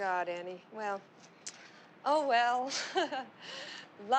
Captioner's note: chuckles